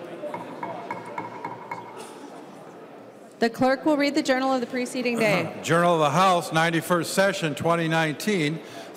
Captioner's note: gavel